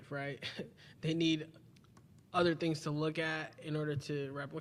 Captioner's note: chuckles